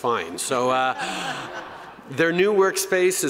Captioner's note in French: Rires